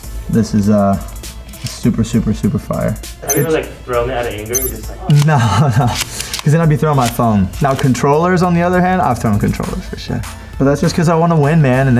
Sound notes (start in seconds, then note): 5.0 laughs